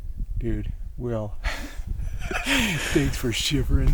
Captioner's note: laughs